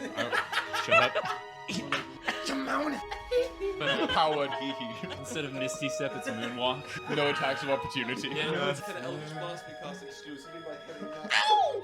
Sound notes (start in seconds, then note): 0.0 laughs